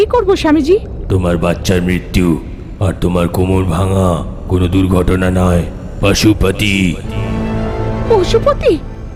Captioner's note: echo